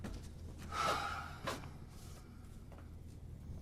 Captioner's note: sighing